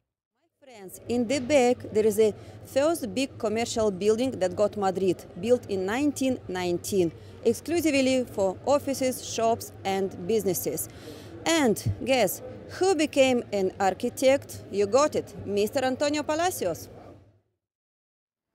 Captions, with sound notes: In the back, there is the first big Commercial Building that got Madrid. Built in 1919. Exclusively for offices, shops and businesses. And, guess who became the architect ? You got it ! Mr. Antonio Palacios. ( Street Noise )